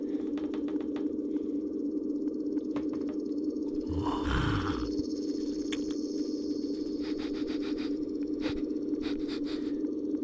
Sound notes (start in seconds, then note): 3.8 snarling; 7.1 sniffing